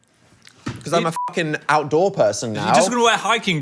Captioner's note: beep